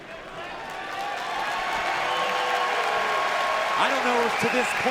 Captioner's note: crowd cheers and claps